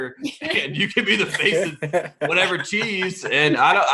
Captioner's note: laughing